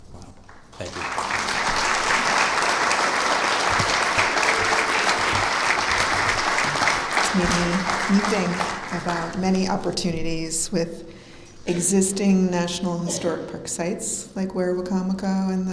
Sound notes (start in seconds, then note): 0.4 clapping